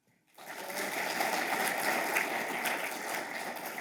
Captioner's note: audience applauding